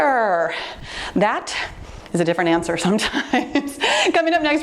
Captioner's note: chuckles